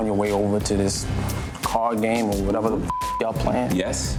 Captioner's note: beep